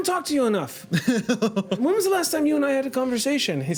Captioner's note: laughing